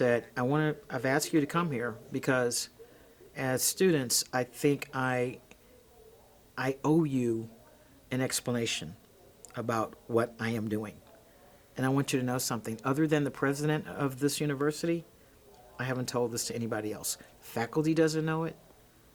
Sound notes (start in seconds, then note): none